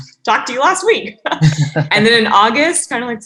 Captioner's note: group laughing